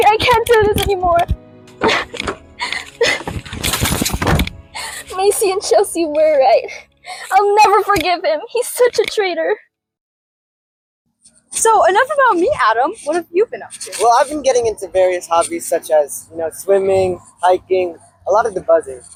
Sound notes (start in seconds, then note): 2.5 severe sobbing